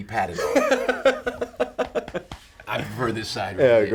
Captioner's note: Paul laughing